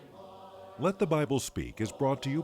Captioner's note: voiceover